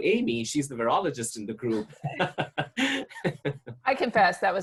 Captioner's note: laughs